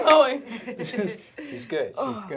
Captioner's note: laughter